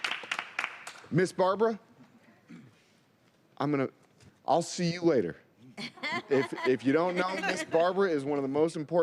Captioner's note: laughter